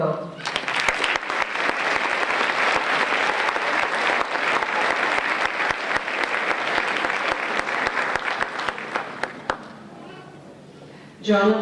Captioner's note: applause